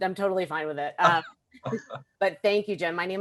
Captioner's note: laughs